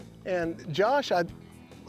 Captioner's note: none